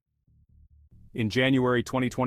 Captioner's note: pause: 1s